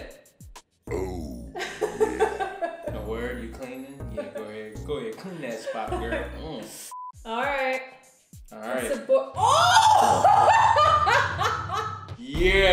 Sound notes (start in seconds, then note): 7.9 shouting; 9.9 laughter